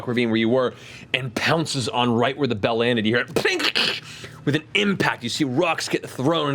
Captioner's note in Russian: хруст